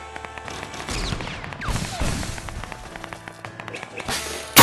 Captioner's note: pew, pew....boom boom